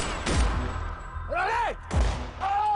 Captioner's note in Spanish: Disparos